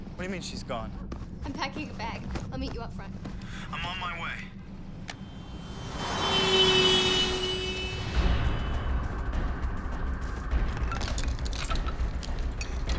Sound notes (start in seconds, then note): 5.2 car horn blaring; 9.7 suspenseful music